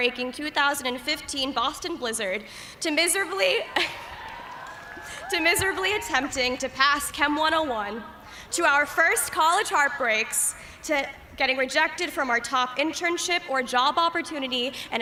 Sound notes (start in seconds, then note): 3.3 cheers